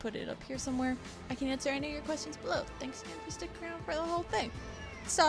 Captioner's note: distant meow